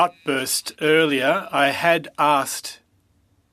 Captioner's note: speaking french